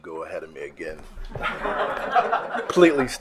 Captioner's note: attendees laughing